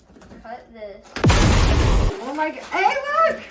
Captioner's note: explosion noises